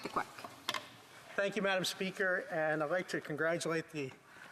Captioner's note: speaking French